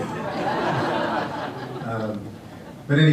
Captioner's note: audience reacts with "awwwwws" and laughter